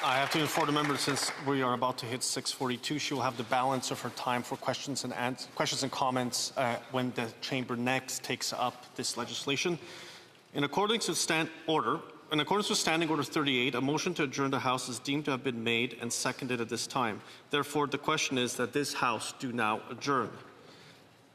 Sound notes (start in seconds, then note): 1.7 applause